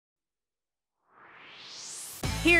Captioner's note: swoosh